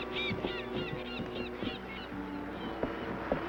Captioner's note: birds cawing